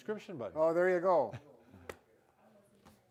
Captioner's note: lightly smacks